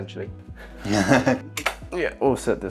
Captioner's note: chuckles